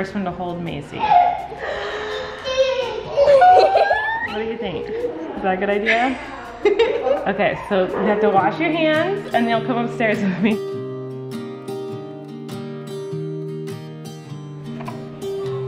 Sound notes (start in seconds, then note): 1.0 and Mom gasping; 11.0 guitar strings